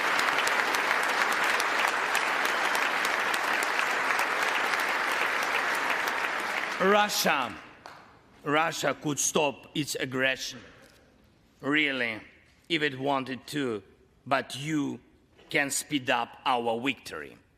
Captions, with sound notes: HANDLE IN THE MOST RESPONSIBLE WAY. [ APPLAUSE ] >> RUSSIA, RUSSIA COULD STOP ITS